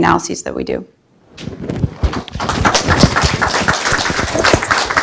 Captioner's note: audience applauds